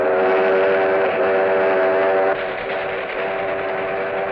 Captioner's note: train engine chugging